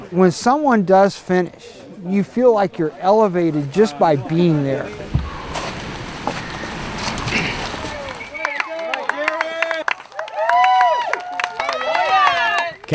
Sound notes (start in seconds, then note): 4.8 footsteps; 4.9 exhales; 7.3 clears throat; 8.0 applause; 10.3 crowd cheering